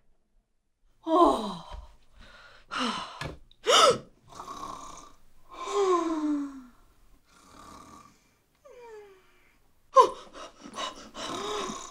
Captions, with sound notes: Aggghhhhhh (gasp of horror) (snoring in sync) Oooooh (heavy scared breathing)